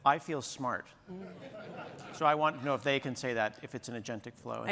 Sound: laughter

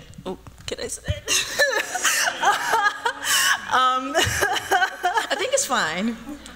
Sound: laughter

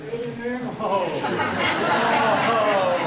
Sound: laughter - oh!!!

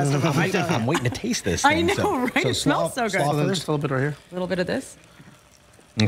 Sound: laughter

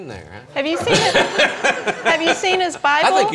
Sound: laughing

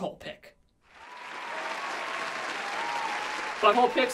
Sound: applause

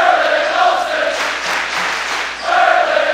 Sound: clapping

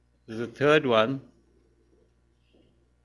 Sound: pause

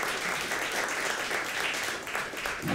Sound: applause

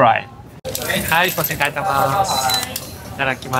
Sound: speaks in japanese

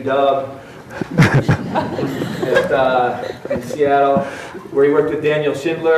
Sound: audience laughs

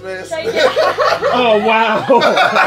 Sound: group laughing

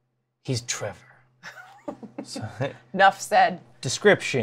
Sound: laughs

